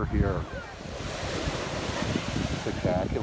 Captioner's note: waves crashing